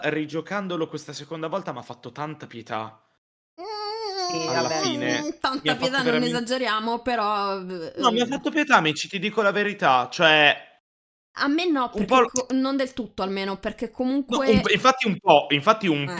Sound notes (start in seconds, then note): 4.1 italian unconvinced noises